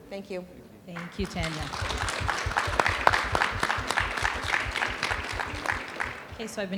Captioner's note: audience applauding